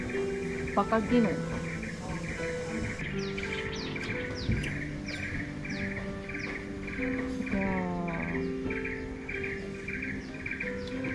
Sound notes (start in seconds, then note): 3.6 sounds of nature